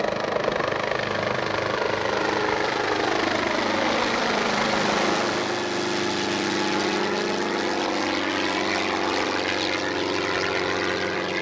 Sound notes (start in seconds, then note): 2.2 helicopter passing